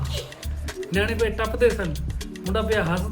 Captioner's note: jokes and laughs